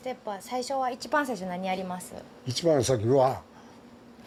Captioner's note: interpreting in Japanese; speaking Japanese